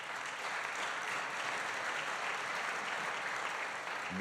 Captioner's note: applause